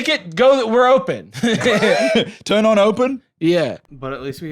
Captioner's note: laughs